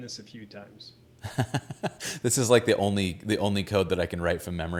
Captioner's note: laughs